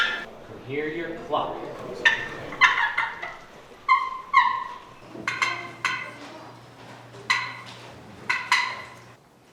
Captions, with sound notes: Can I hear your cluck? (turkey cluck sounds)